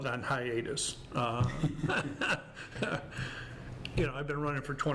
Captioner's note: laughs